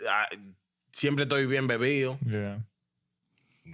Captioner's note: speaking In Foreign Language